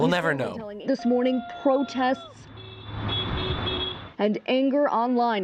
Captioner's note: cars honking